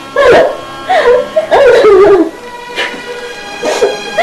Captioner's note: crying